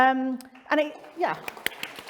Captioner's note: applause